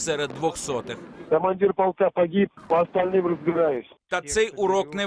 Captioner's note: radio intercept